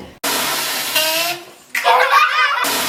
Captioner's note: fart; children laugh